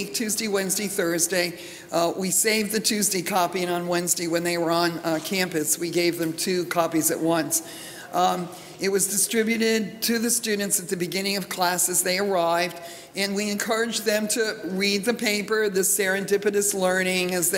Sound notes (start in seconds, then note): none